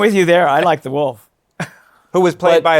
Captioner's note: chuckles